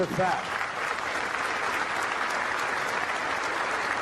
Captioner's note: crowd applauding